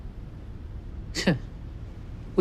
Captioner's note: scoffs